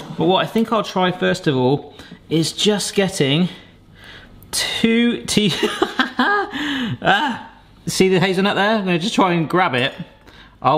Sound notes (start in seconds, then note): 5.6 laughing